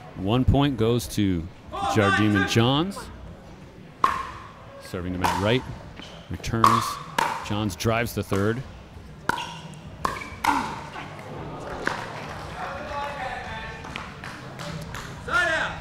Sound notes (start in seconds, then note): 9.9 ball bouncing; 11.8 audience gasping; 13.5 chattering